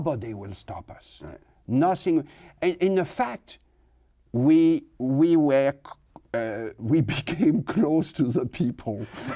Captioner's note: laughs